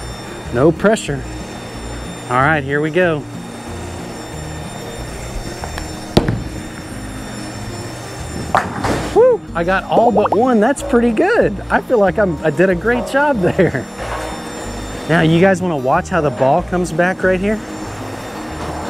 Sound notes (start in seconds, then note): 6.0 bowling ball thuds; 8.4 pins clattering; 9.2 text burbling; 13.2 chuckles; 18.7 machine whirring